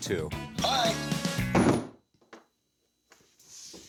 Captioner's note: phone thuds